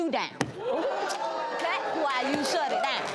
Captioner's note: audience cheers